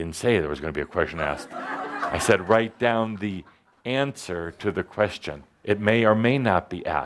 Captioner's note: laughter